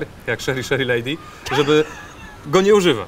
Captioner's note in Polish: śmiech